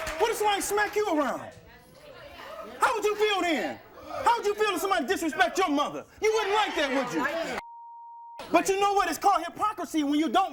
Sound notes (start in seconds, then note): 7.6 beep